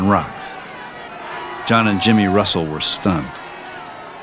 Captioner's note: crowd Booing